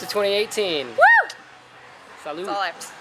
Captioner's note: whooping